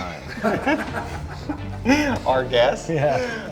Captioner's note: group laughs